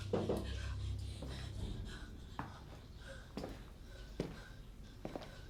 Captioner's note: girls panting; steps plodding